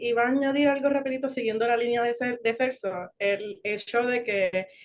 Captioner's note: speaking Spanish